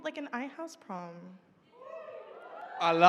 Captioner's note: cheering